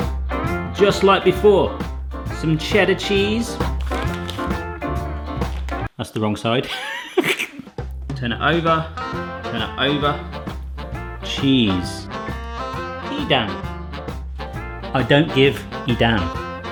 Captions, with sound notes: Just like before, some cheddar cheese. That's the wrong side. (laughs) Turn it over. Turn it over. Cheese. Edam. I don't give Edam.